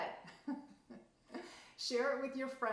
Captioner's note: laughing